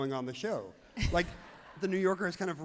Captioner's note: everyone laughs happily